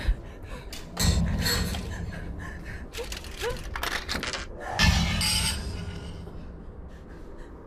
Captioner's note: Heather gasping fearfully; objects clattering